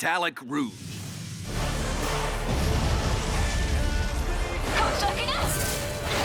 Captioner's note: sounds of battle